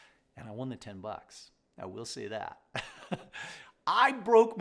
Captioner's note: chuckles